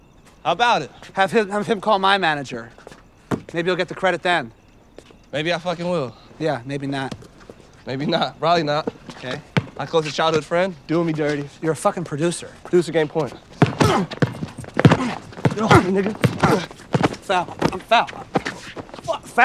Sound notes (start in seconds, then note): 13.6 grunting